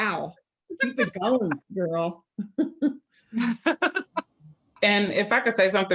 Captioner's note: chuckles happily